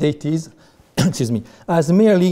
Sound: coughs

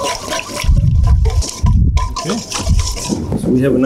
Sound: whisking

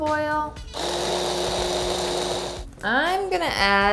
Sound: blender whirring

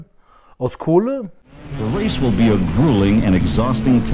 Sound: engine sounds

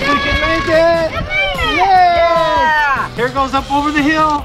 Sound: all exclaiming

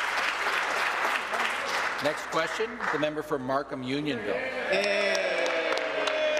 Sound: applause

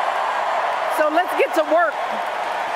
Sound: cheers, applause

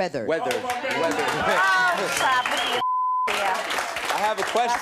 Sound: audience clapping

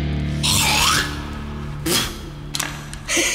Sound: clears throat

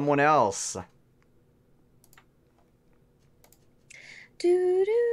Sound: humming theme

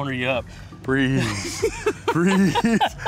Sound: laughs

